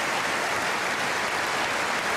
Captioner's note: applause